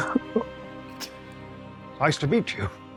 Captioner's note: participants laughing